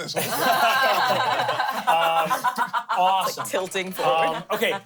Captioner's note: everyone laughs